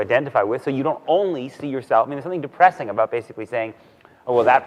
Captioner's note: none